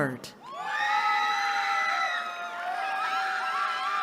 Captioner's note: cheering